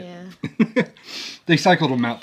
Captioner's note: laughs